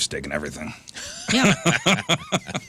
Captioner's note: laughing